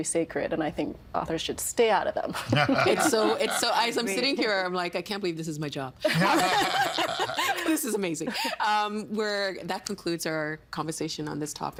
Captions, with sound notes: and I think authors should stay out of them. (Laughing) It's so-- It's-- As I'm sitting here, I'm like, I can't believe this is my job. (All laughing) This is amazing. Um, we're-- That concludes our conversation on this topic.